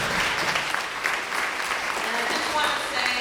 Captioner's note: applause